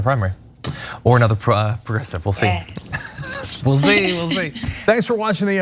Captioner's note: laugh